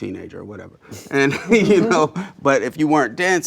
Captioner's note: laughs